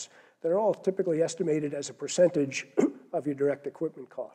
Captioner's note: cough